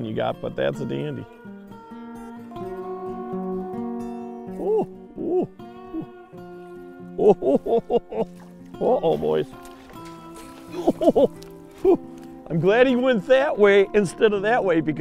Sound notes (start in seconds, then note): 7.1 chuckling